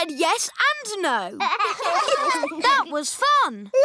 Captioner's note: laughter